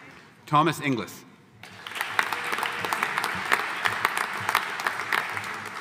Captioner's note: audience applauding